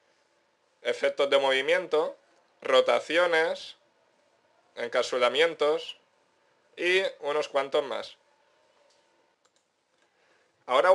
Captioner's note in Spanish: Pausa 5s